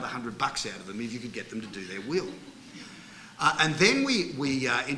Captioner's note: laughter